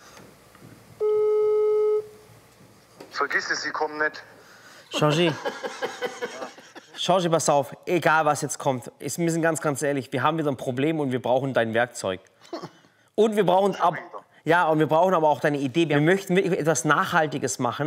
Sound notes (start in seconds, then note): 1.0 Freizeichen